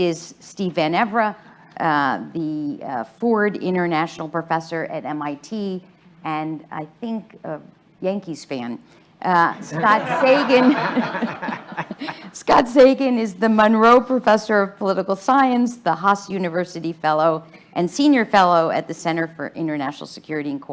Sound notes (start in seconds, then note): 9.6 laughter